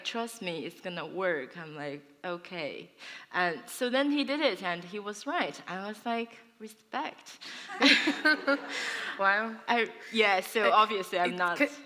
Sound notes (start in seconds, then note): 7.5 laughter